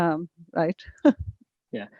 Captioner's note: chuckles